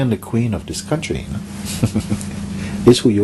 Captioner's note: Mooji Laughs